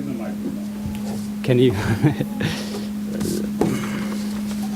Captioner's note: laughs